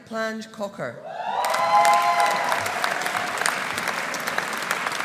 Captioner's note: audience cheering; audience applauding